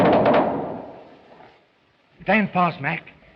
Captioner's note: firing ends